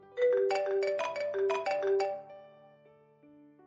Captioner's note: phone-ringing